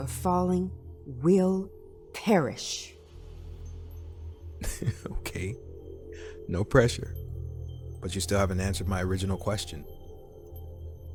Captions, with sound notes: falling will perish. [laughs] Okay, no pressure, but you still haven't answered my original question.